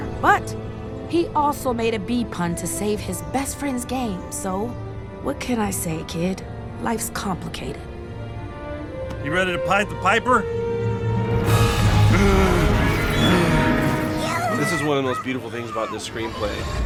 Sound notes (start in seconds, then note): 12.0 grunting